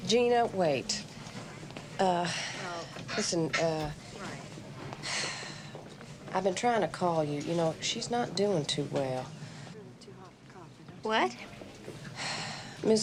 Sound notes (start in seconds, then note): 5.2 Wanda sighs